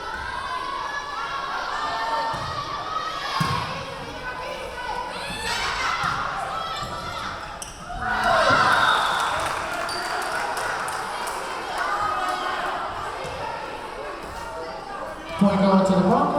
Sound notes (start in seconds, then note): 0.3 yelling; 7.8 cheering; 8.6 whistle blowing; 11.6 clapping; 11.6 yelling